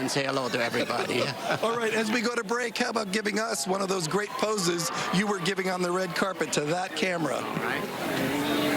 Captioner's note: laughter